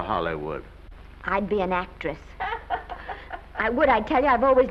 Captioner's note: Aunt Mattie laughing